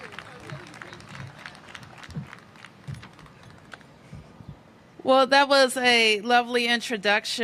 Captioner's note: applause